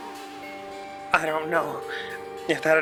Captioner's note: as Alter Ego